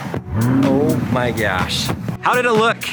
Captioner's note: car engine revving